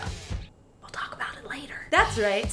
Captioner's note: whispering